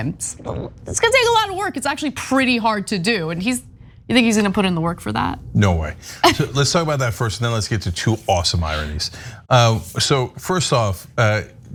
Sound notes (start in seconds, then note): 6.2 laugh